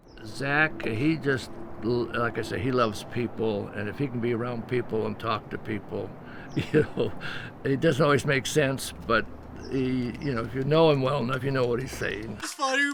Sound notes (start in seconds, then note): 6.3 laughing